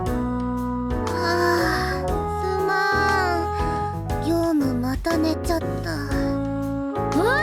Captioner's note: yawn